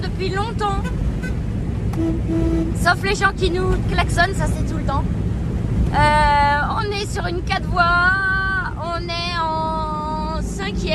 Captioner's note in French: klaxon